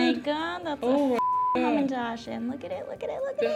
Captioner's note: beeps